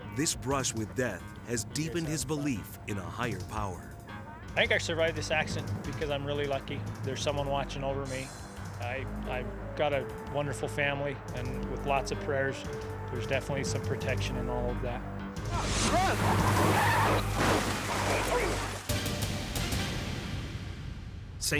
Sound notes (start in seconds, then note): 15.4 tires screeching; 18.8 tense music